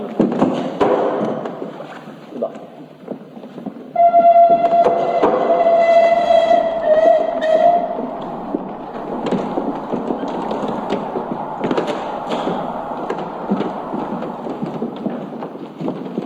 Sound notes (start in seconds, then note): 4.0 train whistle; 8.4 train sounds